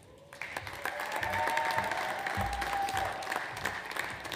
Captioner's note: audience applauds